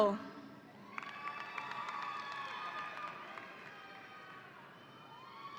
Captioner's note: audience applauding